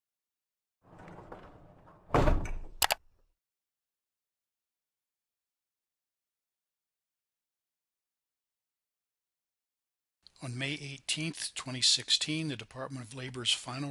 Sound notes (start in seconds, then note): 2.1 loud thump; 2.8 mouse button clicks; 10.6 voiceover